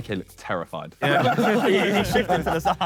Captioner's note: Sidemen laugh